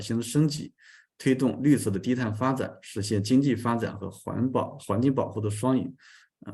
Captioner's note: continues to speak in Chinese